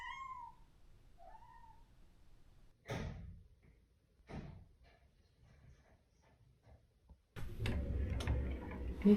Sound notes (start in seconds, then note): 2.7 sound of trying to open the front door